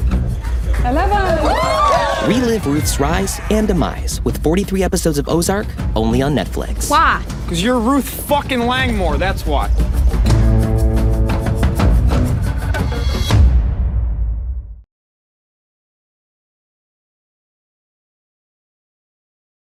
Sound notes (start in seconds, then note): 1.7 everyone cheering